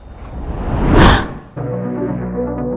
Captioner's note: gasps